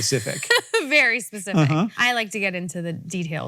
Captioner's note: laughs